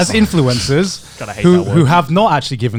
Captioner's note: Connor scoffing